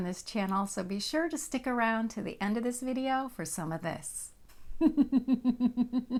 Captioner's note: laughter